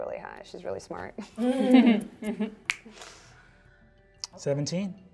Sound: all chuckle

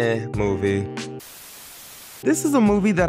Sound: static buzzing

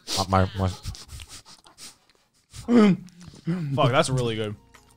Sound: stifled laughing

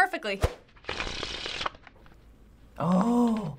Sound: cards clicking

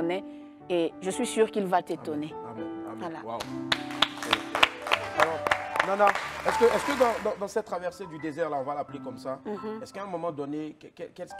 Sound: applause

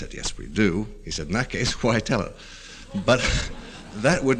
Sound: scattered laughter

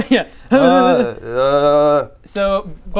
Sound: hyarrrhyrrrrrrrrgrrghh

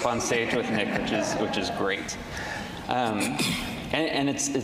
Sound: all laughing

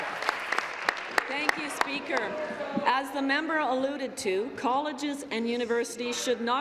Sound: applause

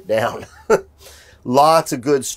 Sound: chuckles

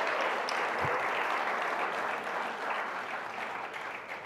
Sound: audience applauding

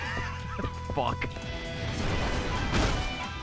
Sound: laughs

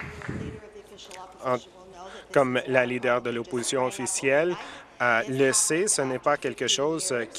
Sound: applause

